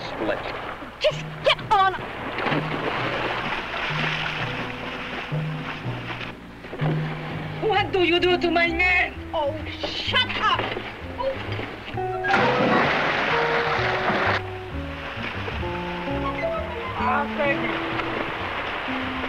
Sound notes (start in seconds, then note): 2.5 water splashing; 11.7 water splashing